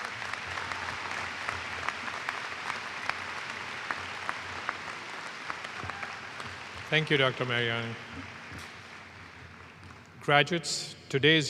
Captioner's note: applause